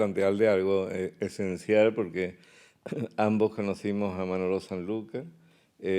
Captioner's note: speaking in Spanish